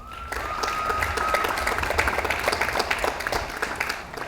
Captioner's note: audience applauds